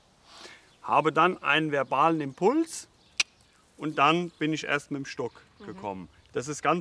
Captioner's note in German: schnalzt